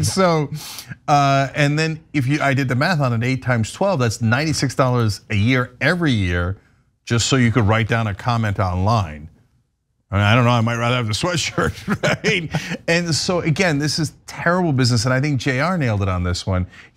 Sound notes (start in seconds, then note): 11.6 laugh